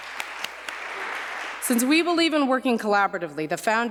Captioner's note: applause